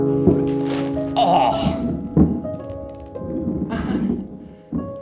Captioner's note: Ulysses groans